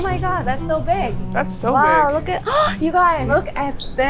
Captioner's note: gasps